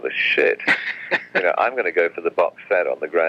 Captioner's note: laughs